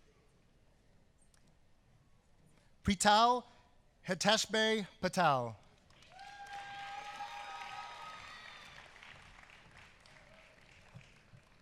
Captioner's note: applause